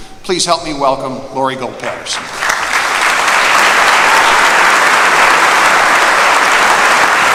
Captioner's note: applause